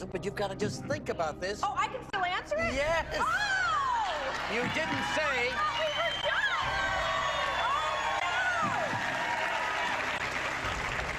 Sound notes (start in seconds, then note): 4.1 audience cheering; 6.8 audience cheering and clapping